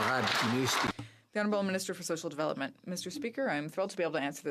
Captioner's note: some Applause